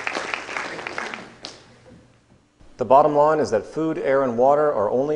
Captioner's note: applause